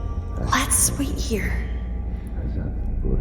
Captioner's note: hushed